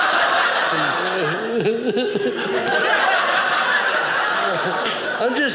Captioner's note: audience laughing